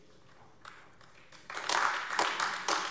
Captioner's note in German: Beifall AfD